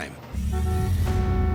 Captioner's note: car horn honking